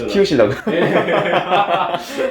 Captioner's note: laughing